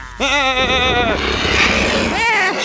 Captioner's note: thieves chuckling; sheep bleating fearfully